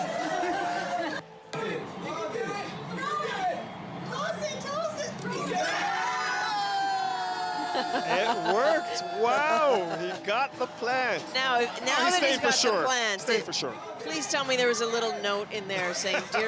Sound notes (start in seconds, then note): 0.2 cheering; 2.4 yelling